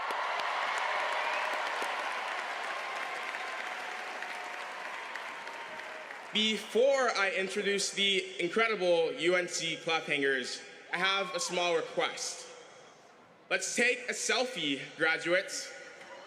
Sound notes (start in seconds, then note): 0.0 cheers and applause